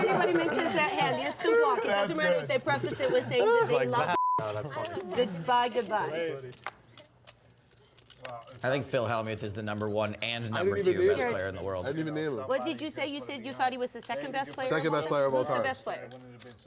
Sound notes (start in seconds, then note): 0.0 laughs; 4.0 beeps